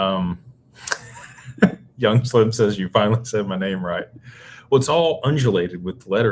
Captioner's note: laughter